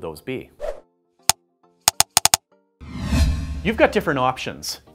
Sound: keyboard clicking

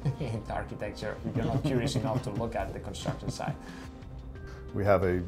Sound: laughs

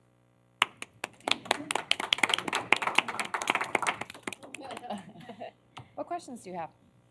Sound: applause

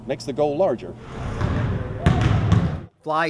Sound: sound of basketballs bouncing

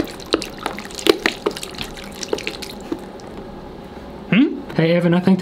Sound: water pouring quietly

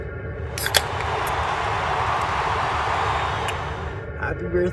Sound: cheering

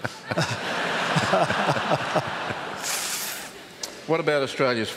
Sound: laughter

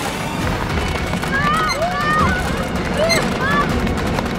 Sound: shouting

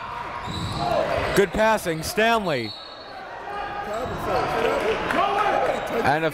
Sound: whistle blows

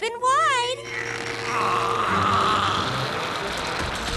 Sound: groaning

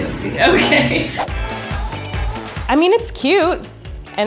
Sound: laughs

